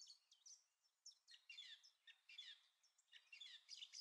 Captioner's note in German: Vogelgesang